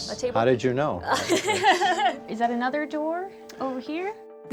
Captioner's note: laughs